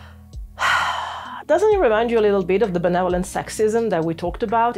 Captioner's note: sighs exasperatedly